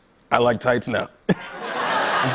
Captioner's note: laughter